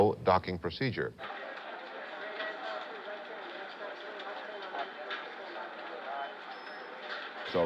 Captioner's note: people talking in background